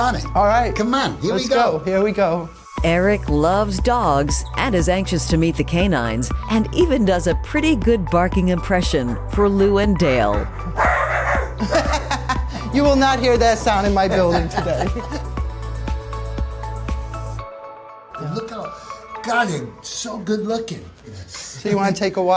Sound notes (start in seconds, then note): 10.5 laughing; 10.7 barking; 14.1 laughing; 15.2 bright music